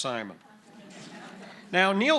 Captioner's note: audience laughing